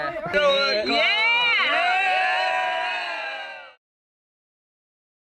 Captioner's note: cheering